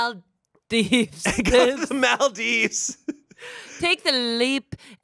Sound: laughs

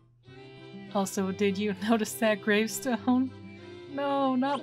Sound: laughing

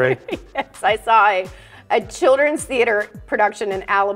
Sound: laughing

